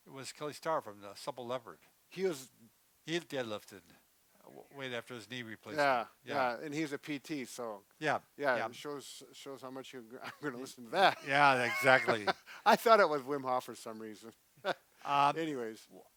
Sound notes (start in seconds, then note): 10.2 laughs; 14.6 chuckles